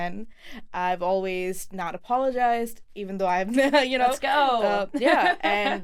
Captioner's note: laughs